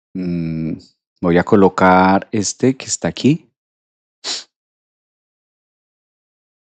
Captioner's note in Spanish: resoplido